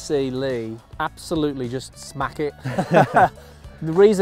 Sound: laughs

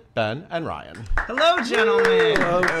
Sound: people clapping

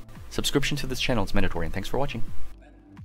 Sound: narrated extremely fast

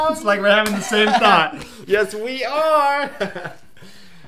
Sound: chuckles

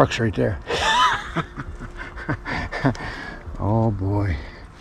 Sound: laughs

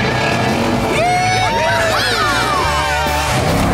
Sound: cheering

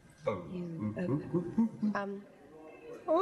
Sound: humming

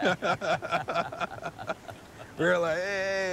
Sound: laughing

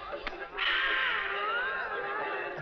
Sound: song playing on radio; sighs

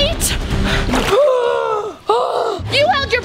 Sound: dramatic inhale

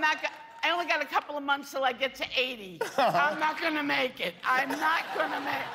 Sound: laughter

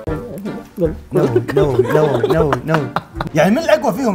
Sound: laughs

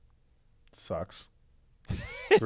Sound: laugh

